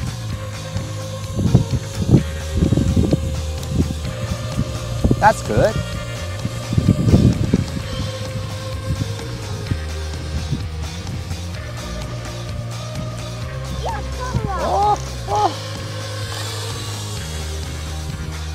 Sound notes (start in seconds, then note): 1.9 motor sound